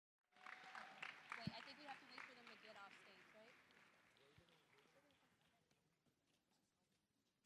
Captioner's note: applause